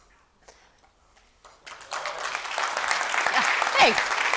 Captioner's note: applause